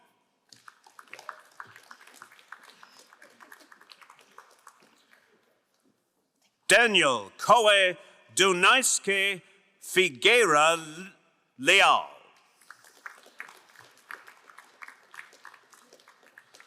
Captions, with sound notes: (crowd applauding) Daniel Kohe Dunaiske Figueroa Liao. (crowd cheering and applauding)